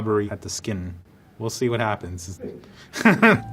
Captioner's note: laughs